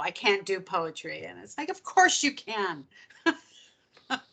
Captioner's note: laughing